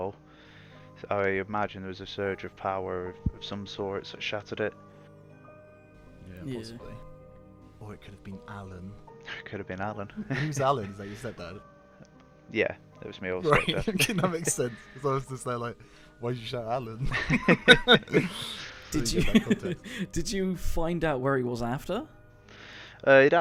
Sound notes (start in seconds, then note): 9.4 laughter; 11.7 more laughter; 16.9 laughs; 17.0 laughing together